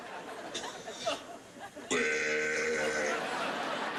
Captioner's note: burp